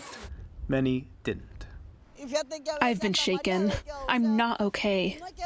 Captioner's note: through translator